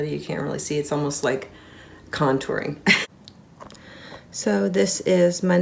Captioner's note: laughing